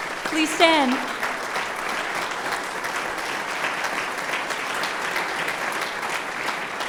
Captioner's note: applause